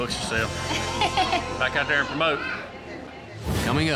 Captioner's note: giggles